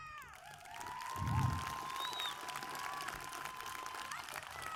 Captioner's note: cheers, applause